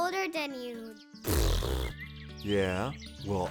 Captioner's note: raspberry